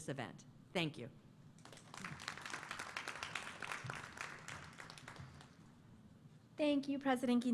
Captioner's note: applause